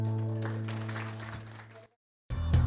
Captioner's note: applause